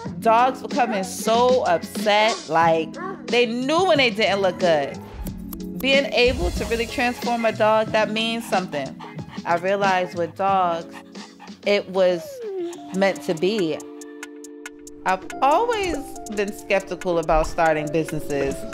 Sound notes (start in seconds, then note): none